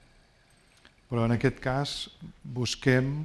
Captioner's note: speaking spanish